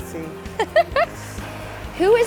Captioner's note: laughs